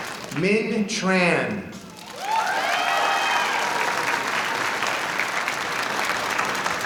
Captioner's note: audience applauding